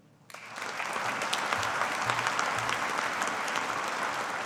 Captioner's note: audience applauding